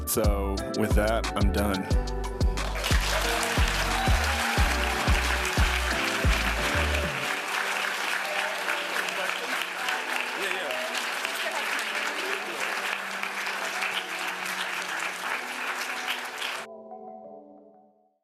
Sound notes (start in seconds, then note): 10.5 applause